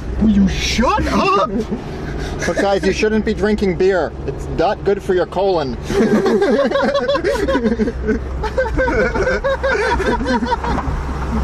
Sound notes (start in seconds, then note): 5.8 laughter